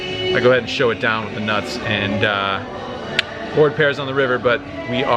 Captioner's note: tongue clicks